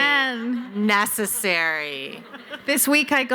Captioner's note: laughter